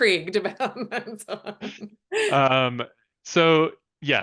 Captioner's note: laughs